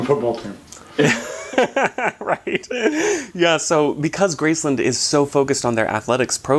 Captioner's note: chuckling